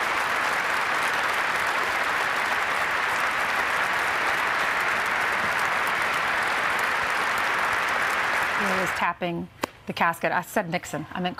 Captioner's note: applause